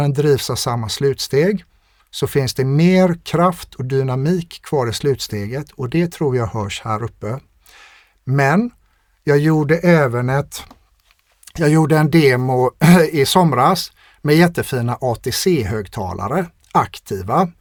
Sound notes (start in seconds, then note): 12.8 clears throat